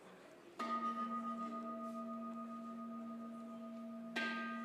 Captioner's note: bell chimes